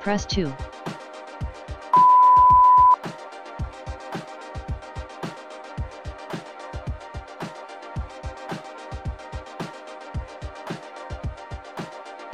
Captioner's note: beeeeeeep